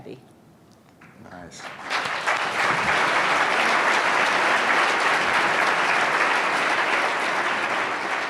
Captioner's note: audience applause